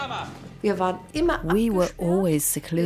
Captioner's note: speaks in foreign language